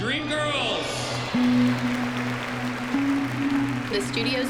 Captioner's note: cheering and applause